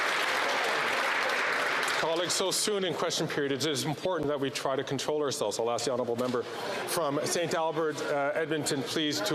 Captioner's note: some Applause